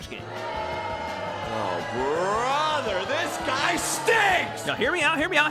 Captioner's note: crowd booing, hunger for flesh growing